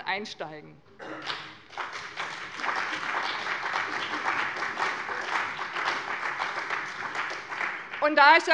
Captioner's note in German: Beifall bei dem BÜNDNIS 90/DIE GRÜNEN und der CDU